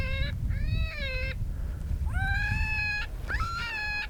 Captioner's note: animal call